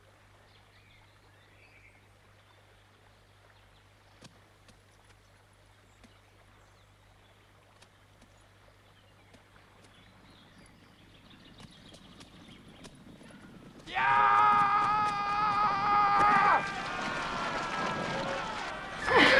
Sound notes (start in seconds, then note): 14.2 raider shouting; 16.8 raiders shouting